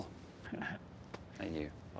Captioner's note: Skip chuckles